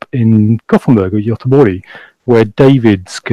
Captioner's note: speaks in foreign language